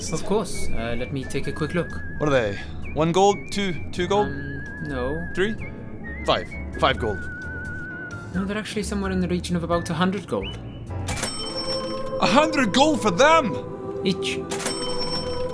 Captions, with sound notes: Of course, let me take a quick look What are they? 1 gold? 2 gold? Um...no... 3? 5? 5 gold They're actually somewhere in the region of about 100 gold *ka-ching!* 100 GOLD FOR THEM?! each *KA-CHING!*